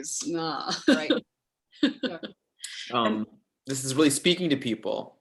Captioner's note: laughing